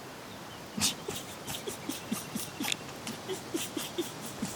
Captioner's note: laughing